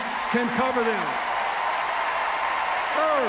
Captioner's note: cheers, applause